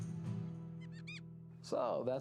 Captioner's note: mouse squeaks